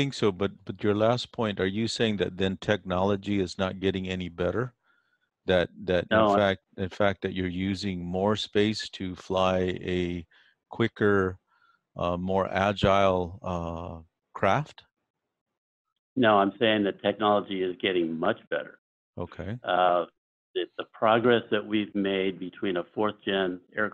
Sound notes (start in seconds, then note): 0.0 on phone; 7.0 on phone; 19.9 on phone